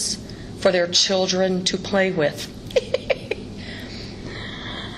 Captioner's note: laughs